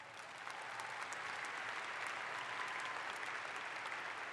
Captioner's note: audience applauds